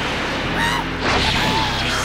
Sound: scream

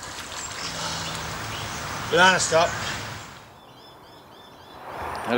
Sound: birds, paddle strokes; exhales

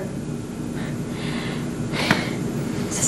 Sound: sighs

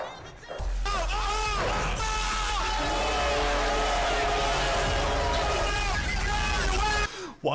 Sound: the infamous mlg screaming

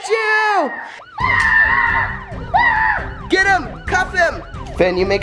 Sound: yells

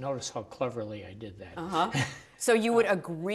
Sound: laughs

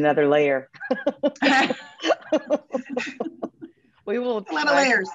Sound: both chuckles

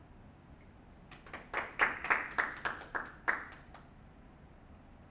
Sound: applause

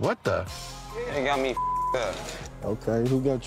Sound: beep

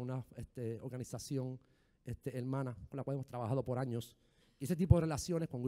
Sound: speaking in foreign language

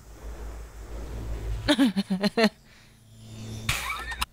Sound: laughs

